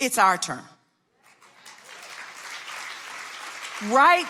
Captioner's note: audience clapping